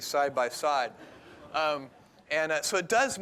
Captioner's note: laughter